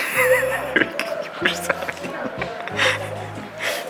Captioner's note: laughing